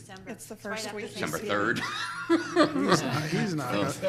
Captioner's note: people laughing